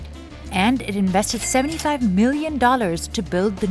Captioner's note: cash register ka-chings